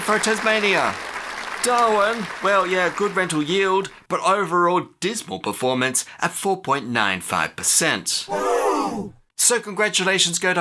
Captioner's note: crowd gasps